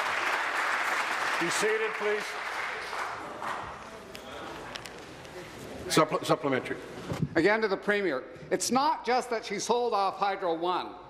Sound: applause

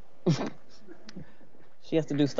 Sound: members chuckling

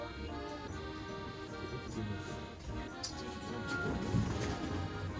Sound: laughs

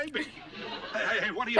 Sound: laughs

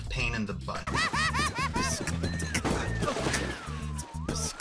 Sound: laughing maniacally

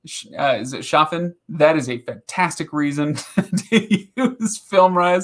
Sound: laughing

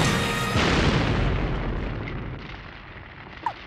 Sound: loud boom

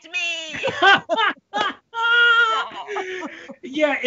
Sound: Brennan laughing

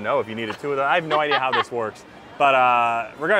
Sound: laughing

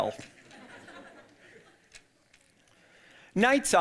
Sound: audience laughing

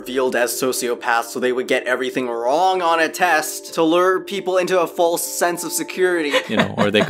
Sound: laughs

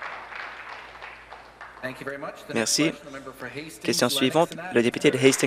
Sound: applause

